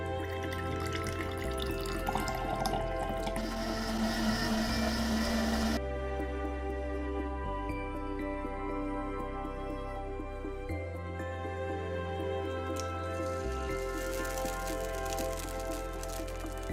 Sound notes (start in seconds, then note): 0.0 juice pouring; 3.3 blender roaring; 12.7 egg sizzling